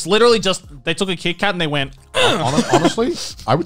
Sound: grunts

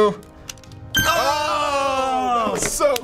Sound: both groan; ding!

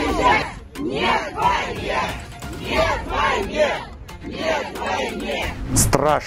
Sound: chanting

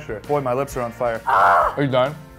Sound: screams

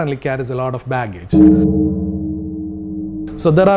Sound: bell tolls ominously

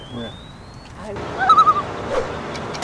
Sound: loon call

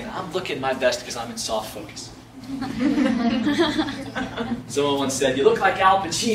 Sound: laughs

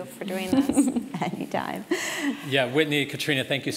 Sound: laugh

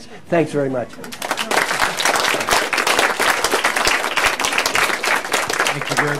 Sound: applause

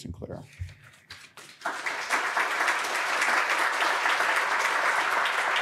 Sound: audience applauding

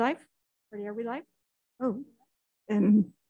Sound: voice echoing

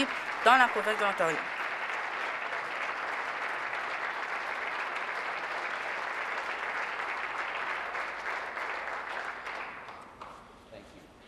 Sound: applause

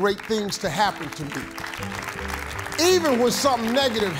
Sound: congregants applauding

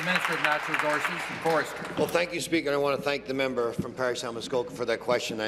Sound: applause

